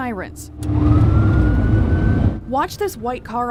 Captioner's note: police sirens wailing